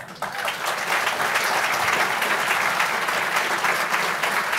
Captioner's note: applause